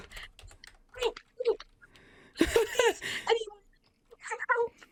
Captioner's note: laughing